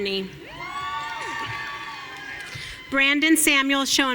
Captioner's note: audience cheering